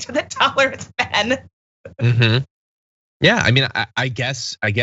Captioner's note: laugh